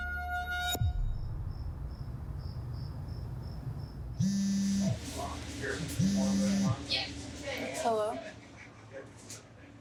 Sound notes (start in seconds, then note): 4.4 phone buzzing